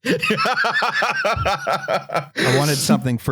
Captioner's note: laughs